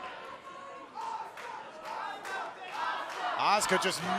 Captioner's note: fans chanting